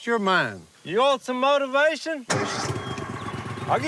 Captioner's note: none